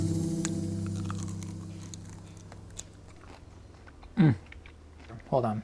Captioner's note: skin crunching